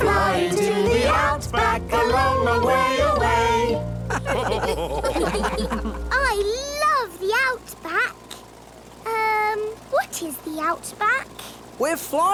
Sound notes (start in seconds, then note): 4.0 all laugh